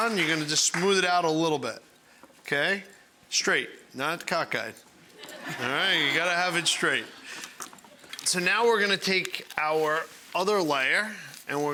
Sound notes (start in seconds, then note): 5.2 audience laughing